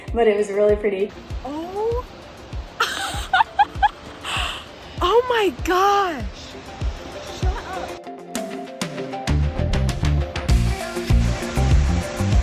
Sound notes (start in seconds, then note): 2.8 laughing